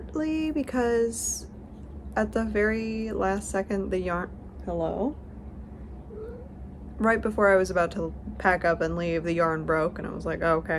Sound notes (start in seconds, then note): 6.1 cat noise